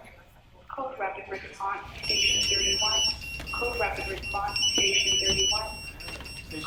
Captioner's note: radio Chatter